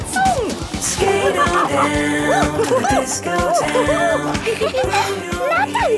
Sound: laughing and exclaiming

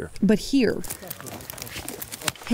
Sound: loud rustling

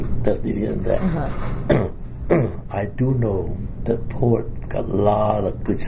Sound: coughs

